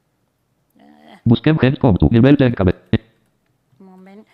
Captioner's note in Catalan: veu del lector de pantalla